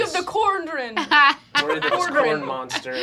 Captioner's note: laughing